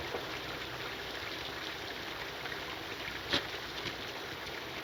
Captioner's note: rain pattering